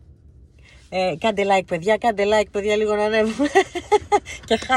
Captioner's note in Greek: γέλια